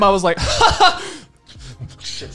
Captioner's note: laughing